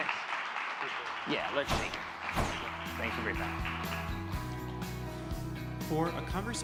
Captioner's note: applause